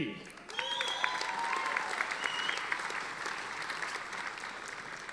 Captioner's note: audience applauding